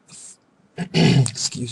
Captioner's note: throat clearing